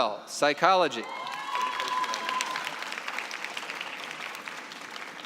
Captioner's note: cheering and applause